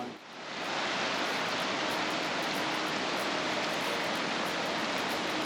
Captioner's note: sound of running water